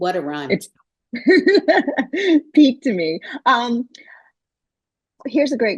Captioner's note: laughter